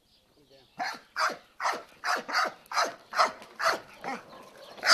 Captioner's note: dog barking